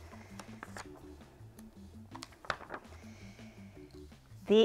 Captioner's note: flapping pages